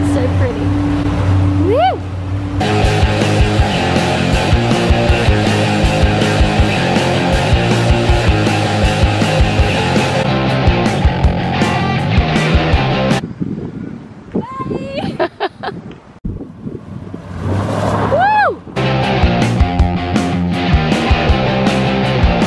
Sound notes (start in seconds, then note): 2.7 energetic rock music; 14.9 laughs; 16.7 car engine revvs; 18.8 energetic rock music